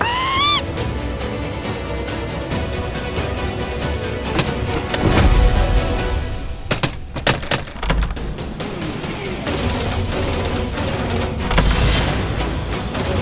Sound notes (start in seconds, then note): 6.5 knock on the door; 7.7 shocking music; 11.2 door opening sound